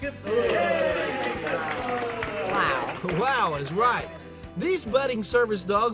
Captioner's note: applause